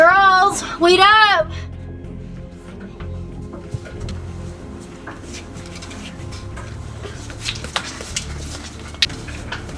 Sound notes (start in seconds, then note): 3.1 more shuffling sounds; 4.5 banging